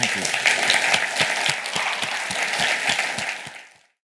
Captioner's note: audience applauds